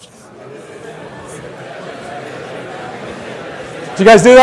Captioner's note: audience repeating the phrase